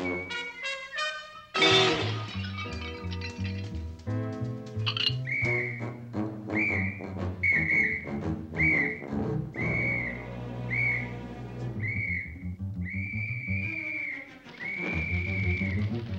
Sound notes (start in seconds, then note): 4.9 blowing whistle